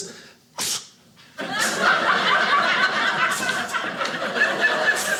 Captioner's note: audience laughing